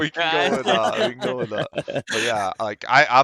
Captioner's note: laughs